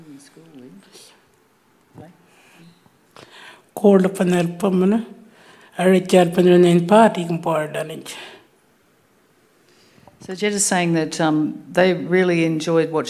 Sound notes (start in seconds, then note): 3.7 speaking Anmatyerr